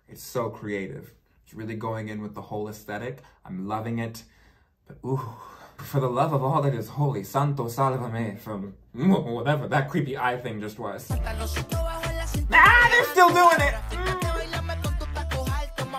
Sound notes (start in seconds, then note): 12.2 yells